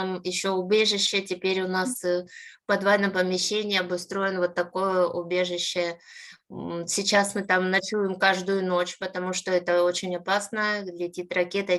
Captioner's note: speaking Ukrainian